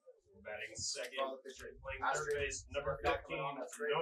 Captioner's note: pa announcement